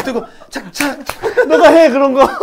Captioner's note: clap! clap!